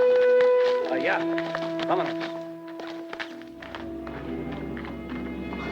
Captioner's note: Red Hawk speaks Spanish